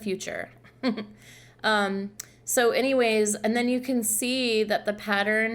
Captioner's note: laughter